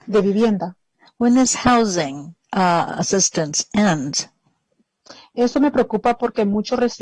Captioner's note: speaking spanish